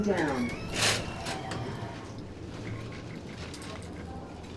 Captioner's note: doors scraping